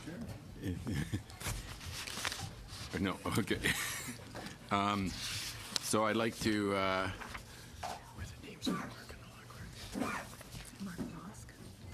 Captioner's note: laughter